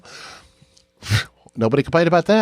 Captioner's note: scoffs